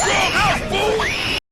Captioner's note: desperate Screaming